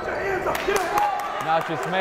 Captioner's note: yelling